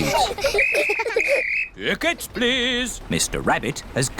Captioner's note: blows whistle